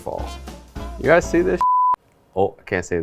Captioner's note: beep